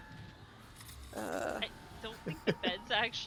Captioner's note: laughs